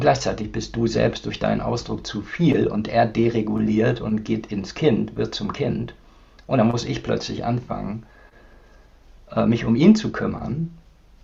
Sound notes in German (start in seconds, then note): none